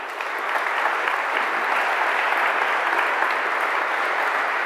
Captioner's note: applause